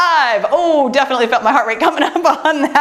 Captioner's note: laughs